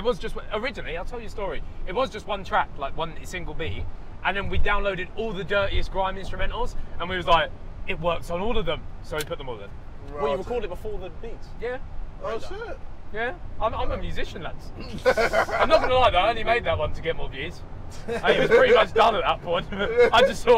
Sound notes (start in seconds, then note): 14.8 laughing